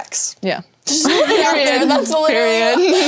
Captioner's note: laughter